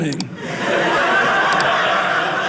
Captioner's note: audience laughing